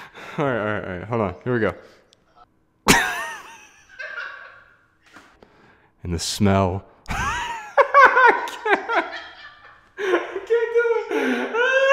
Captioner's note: haha; bursts out laughing